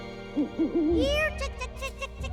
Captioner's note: hoots